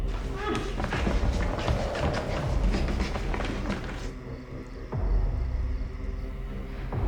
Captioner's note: heavy footsteps